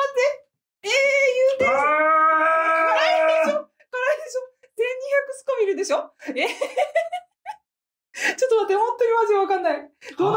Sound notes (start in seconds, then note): 1.6 screaming